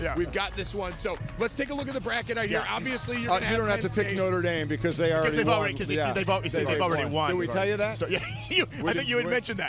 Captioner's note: laughter